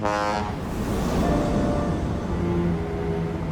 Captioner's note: foghorn blows